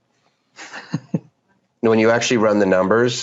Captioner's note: laughs